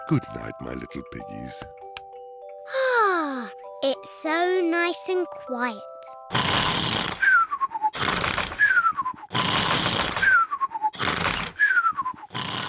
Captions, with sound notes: Goodnight, my little piggies. (SIGHS HAPPILY) It's so nice and quiet! (GEORGE SNORES LOUDLY)